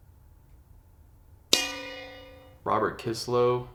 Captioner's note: bell dings